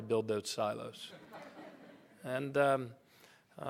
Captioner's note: laughter